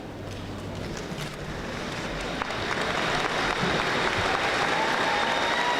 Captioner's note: audience applauding